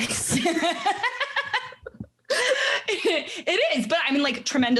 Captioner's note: laughing